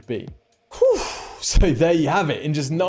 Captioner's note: huffing